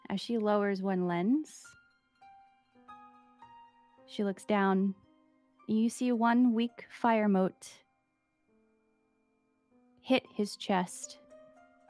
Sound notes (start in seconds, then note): none